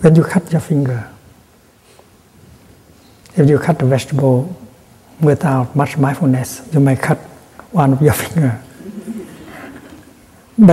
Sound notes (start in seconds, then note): 8.7 laughter